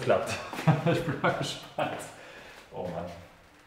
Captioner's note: laughs